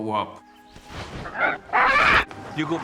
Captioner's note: squawks